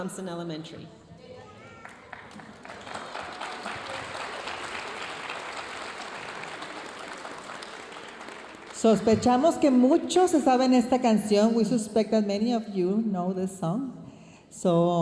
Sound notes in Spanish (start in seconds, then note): 1.7 aplausos de la audiencia; 11.6 hablando en inglés